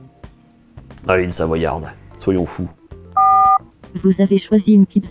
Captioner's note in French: son de touche de téléphone